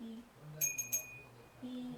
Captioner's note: bell rings